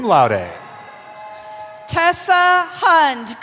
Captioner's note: cheering